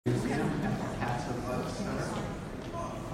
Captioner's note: crowd milling